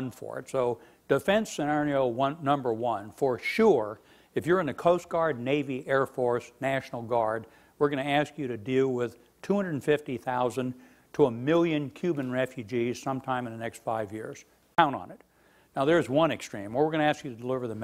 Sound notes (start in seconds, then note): none